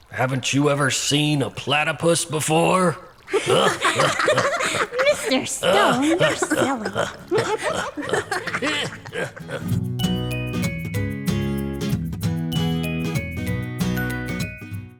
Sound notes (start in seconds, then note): 3.2 laughing; 9.3 upbeat music